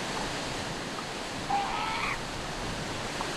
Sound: calls

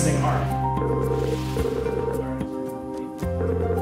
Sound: phone ringing

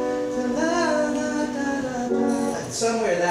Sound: hums melody

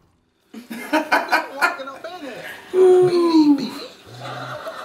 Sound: both laugh

